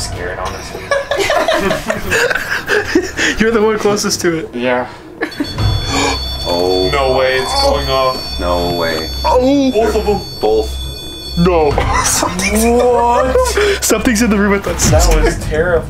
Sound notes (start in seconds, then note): 0.4 laughs; 5.5 beeps; 11.0 beeping